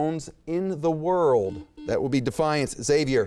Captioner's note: beep